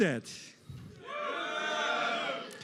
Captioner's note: cheering, booing